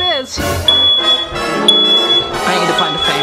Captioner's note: alarm beeping